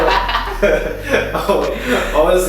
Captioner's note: haha